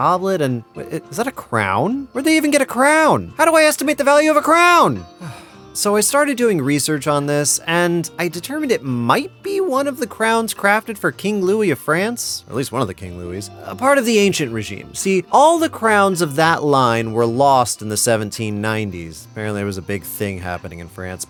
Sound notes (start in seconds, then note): 5.1 sigh